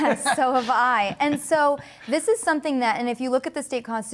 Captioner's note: laughter